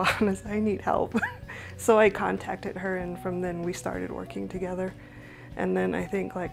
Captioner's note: laughs